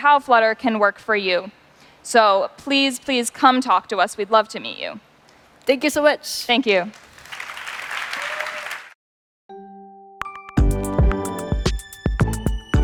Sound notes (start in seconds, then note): 6.8 applause